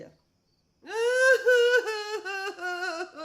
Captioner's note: crying